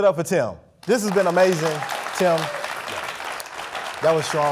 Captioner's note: audience applauding